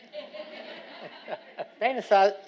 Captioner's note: audience laughing